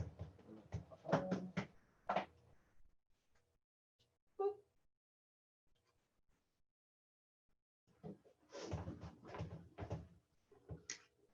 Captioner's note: kitchen background noise